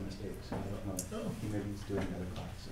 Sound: speaking off mic

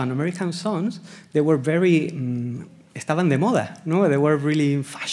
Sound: speaking Spanish

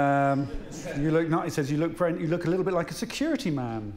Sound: laughter

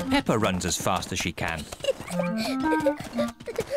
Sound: giggling

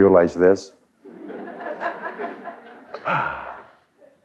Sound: laughter

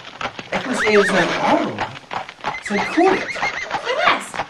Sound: …Horse neighing…

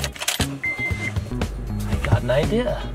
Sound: car starts

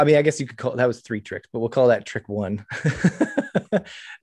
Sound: laughs

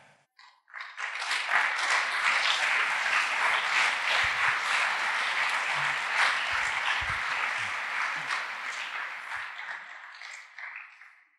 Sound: applause

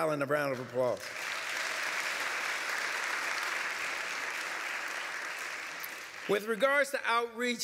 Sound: applause

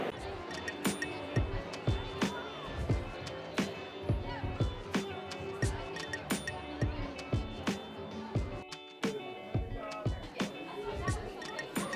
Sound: crowd noise

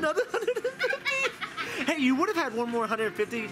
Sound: laughing

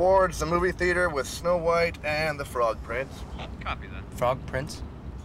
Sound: man On Radio

